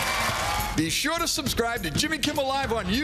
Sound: applause

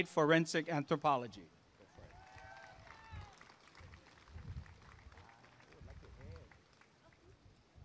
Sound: applause and cheering

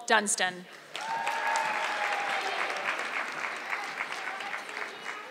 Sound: audience clapping

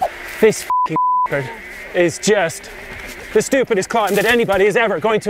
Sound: beep

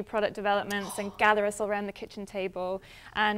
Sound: gasp

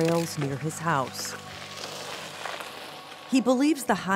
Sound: tires crunching on road

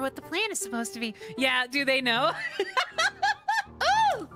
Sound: laughter

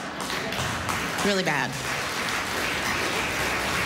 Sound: laughter, applause

